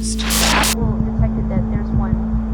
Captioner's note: graphic crackling